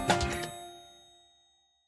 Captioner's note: bell dings